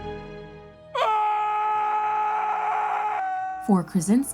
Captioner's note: yells